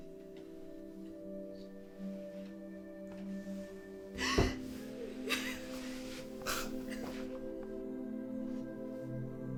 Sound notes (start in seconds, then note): 1.0 eerie ambient music; 4.2 crying and hitting the wall